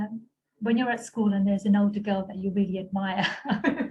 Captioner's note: alughter